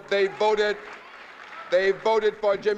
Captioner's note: applause